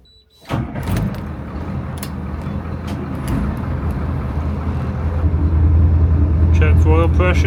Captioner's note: engine noise